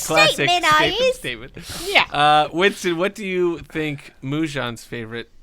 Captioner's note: cockney voice